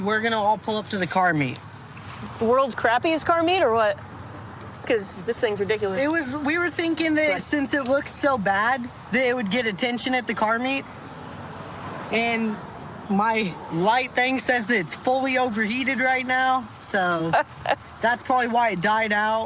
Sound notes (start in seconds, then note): 17.2 laughs